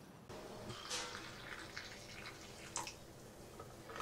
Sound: coffee trickles

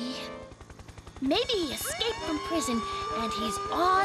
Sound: sirens blaring

